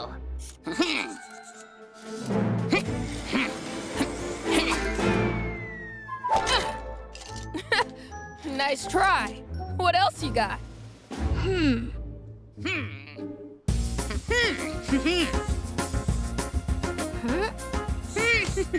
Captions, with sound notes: (intense music) - (laughs) Nice try. What else you got? (Cozmo chuckling) (energetic music)